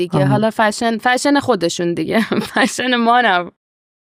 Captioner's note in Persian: خنده